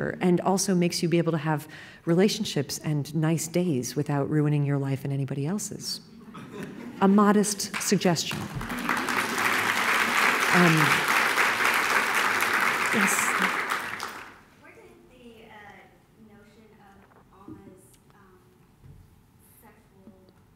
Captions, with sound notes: and also makes you be able to have relationships and nice days without ruining your life and anybody else's ( laughing ) A modest suggestion. ( Applause ) >> Where did the notion of Alma's sexual...